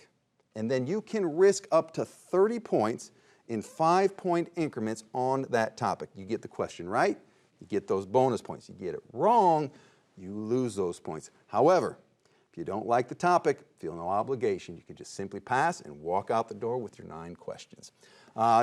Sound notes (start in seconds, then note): none